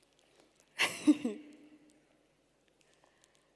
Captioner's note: chuckles